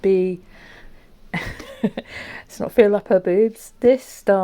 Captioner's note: laughs